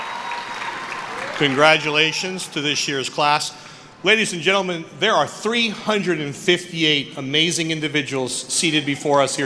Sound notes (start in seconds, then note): 0.0 applause; 0.0 cheering